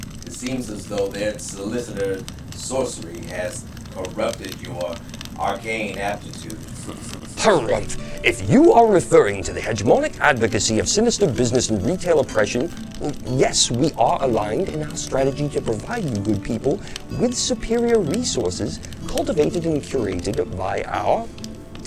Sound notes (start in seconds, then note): 6.7 chuckles